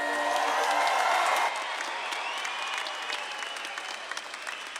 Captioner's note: audience claps and cheers